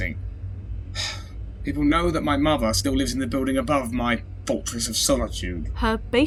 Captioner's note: sigh